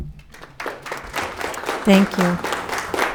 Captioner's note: audience clapping